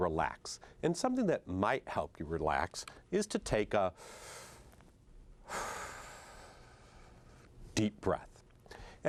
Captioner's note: deep breath